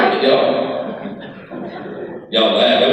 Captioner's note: crowd laughs